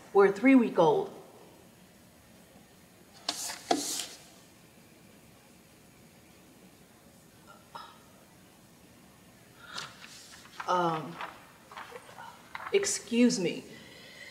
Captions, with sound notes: where a three week old. (paper slides) (Kerri scoffs) Um. Excuse me.